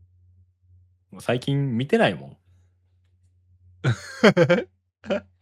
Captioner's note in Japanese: 笑い